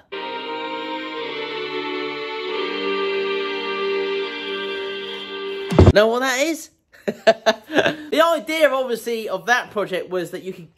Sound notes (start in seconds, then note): 0.0 dramatic music playing; 7.1 laughing